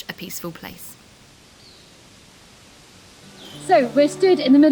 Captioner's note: birds singing